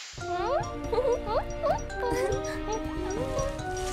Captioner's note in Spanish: Risas